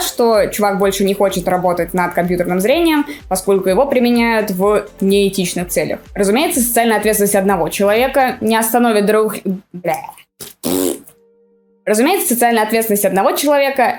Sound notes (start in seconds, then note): 10.4 farts sound